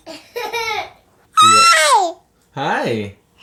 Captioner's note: does more of the shrieking